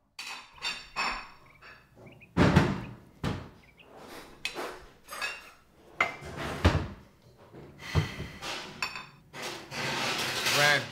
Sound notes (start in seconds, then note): 0.1 dishes clanking; 4.3 cabinets banging; 8.2 Thomas sighs